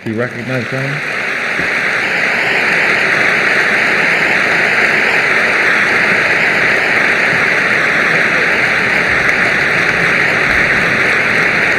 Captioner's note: applause